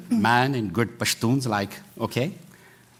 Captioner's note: non-english